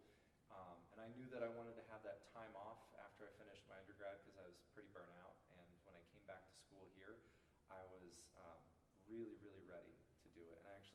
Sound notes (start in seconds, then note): none